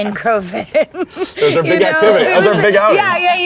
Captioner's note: people laughing